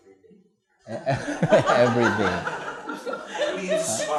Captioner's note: laughter